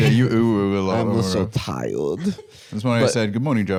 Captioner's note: baby voice